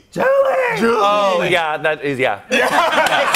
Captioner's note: laughter